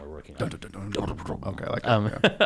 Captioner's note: both mumbling